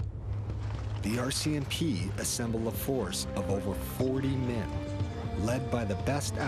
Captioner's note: voiceover